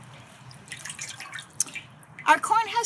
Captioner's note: water splashing